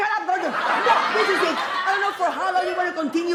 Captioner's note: audience laughs